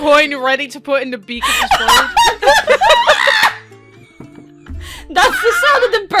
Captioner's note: absolutely joyous laughter